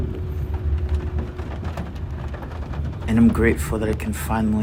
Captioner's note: train car clacking